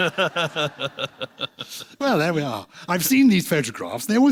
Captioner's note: laughs